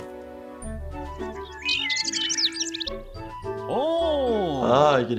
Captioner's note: birds chirping